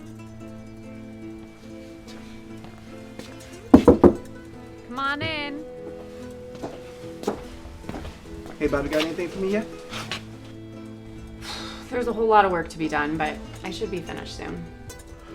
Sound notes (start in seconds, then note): 0.1 uptempo mellow music; 3.7 knocking on door; 7.1 footsteps pattering; 11.4 exhales loudly